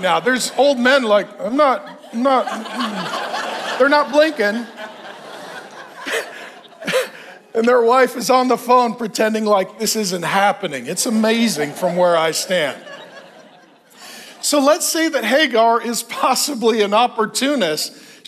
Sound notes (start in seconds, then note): 2.5 congregation laughs; 13.2 congregation laughs